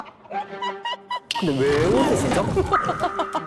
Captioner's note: bursts into laughter; tiger sound again